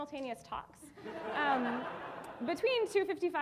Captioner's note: audience laughing